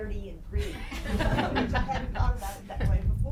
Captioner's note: laughing